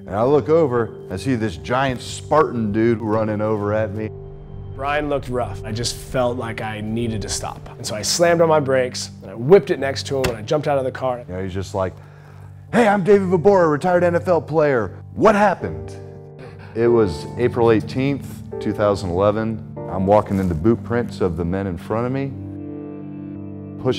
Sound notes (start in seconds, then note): 4.9 voiceover